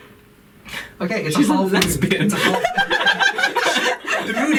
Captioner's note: laughter